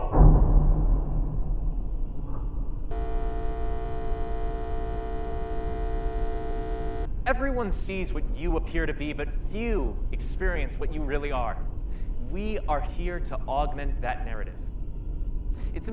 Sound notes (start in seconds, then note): 0.3 upbeat tensed beat; 2.9 shaver buzzing